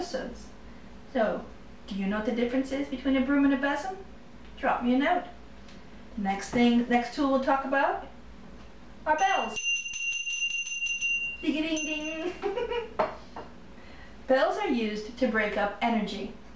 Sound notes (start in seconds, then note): 9.1 bell ringing; 12.2 laughter